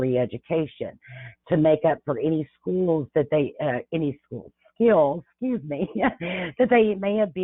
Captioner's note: laughs